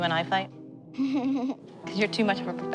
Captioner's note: laughs